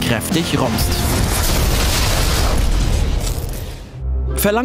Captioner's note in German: Explosionsgeräusch